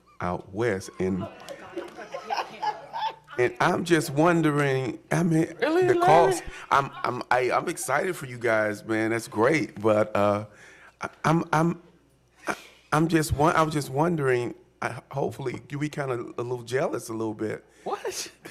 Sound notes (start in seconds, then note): 6.4 laughter